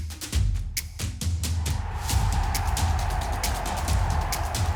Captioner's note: crowd cheering